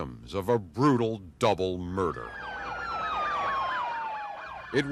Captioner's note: police sirens